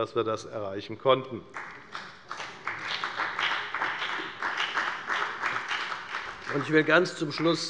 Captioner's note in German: Beifall bei der FDP und bei Abgeordneten der CDU